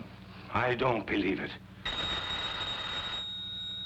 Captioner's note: phone rings